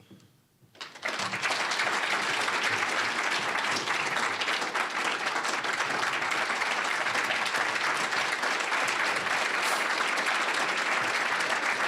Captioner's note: applause